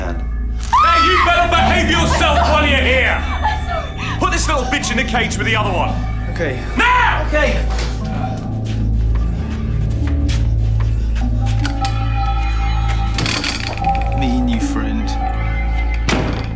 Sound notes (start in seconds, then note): 0.6 screaming